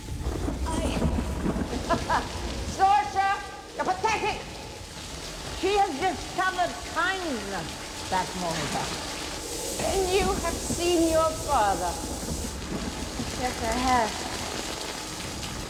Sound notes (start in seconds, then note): 1.6 Bavmorda Laughs; 8.4 thunderclap